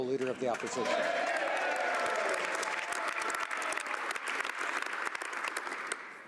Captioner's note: speaking French